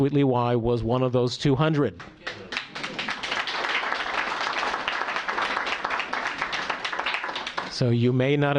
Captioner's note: applause